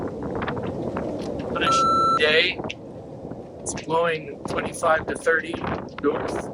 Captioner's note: beep